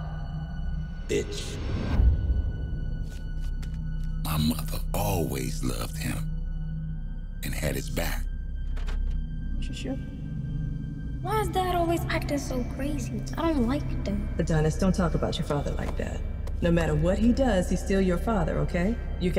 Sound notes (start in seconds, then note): 2.1 air whooshing